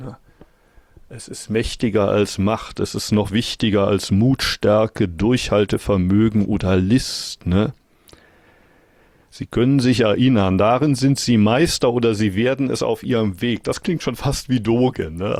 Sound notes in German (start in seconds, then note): none